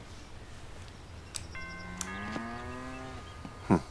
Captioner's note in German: Klingeln, Muhen